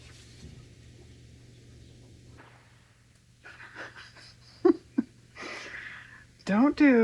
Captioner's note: laughs